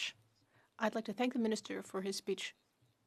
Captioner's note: speaking French